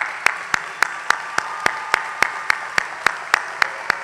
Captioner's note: applause